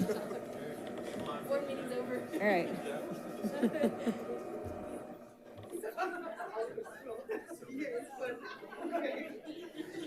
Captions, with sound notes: (all chuckling) - Board meeting over. (laughs) - All right. (light chatter)